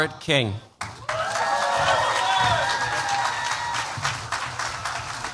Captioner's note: cheers, applause